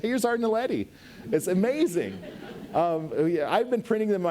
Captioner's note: audience laughs